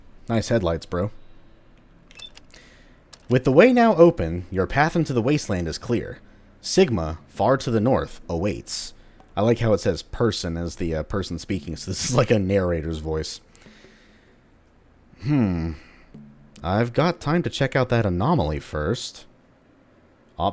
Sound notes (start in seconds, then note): 12.5 chuckles